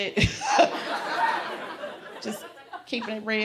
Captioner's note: laughs